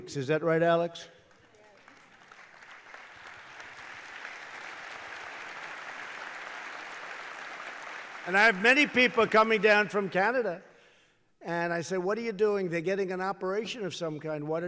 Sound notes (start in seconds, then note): 4.4 applause